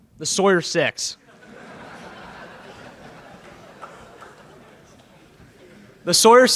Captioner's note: laughter in the crowd